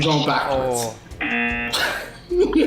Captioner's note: buzzer; laughs